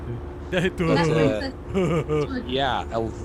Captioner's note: laughs